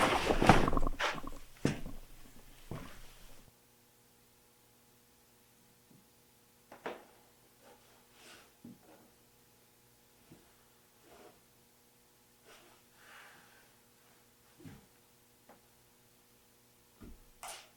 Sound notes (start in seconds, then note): 0.0 cloth rustling; 4.3 electricity humming